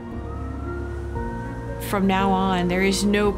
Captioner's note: siren blaring in distance